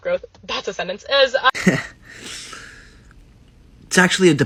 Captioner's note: stinging, wet breath in